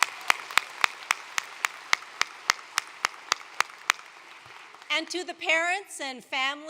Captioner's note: applause